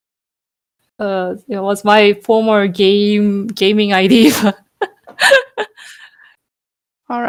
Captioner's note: laugh